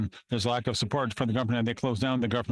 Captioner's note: speaking French